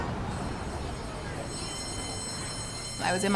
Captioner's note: school bell